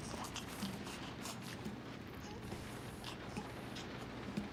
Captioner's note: baby cooing